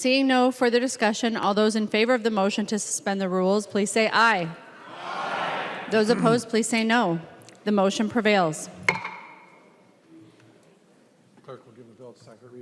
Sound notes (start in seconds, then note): 7.7 chorus of ayes